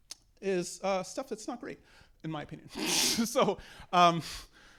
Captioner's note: laughs